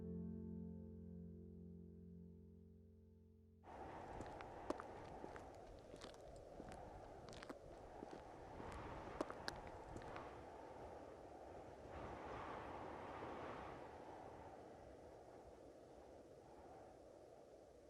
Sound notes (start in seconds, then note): 3.4 wind whistling; 4.0 footsteps tapping